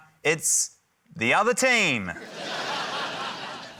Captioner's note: laughter